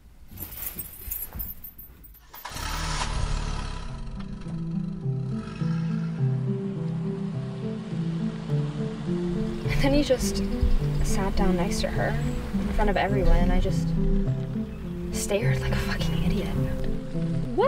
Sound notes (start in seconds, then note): 2.7 car engine revving; 2.7 light music